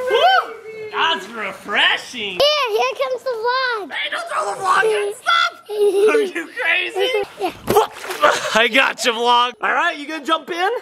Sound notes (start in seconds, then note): 5.6 giggling